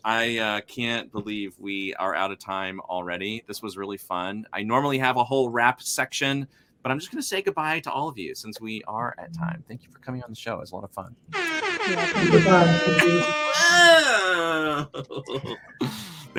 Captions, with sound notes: I can't believe we are out of time already. This was really fun. I normally have a whole wrap section, but I'm just going to say goodbye to all of you since we are at time. Thank you for coming on the show, it was a lot of fun. (air horn blasts) - Yeah, thank you for having me. - Whoa!